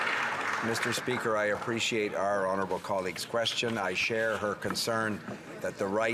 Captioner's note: some Applause